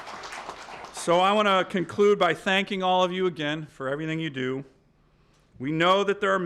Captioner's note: applause